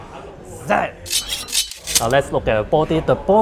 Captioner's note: swords slashing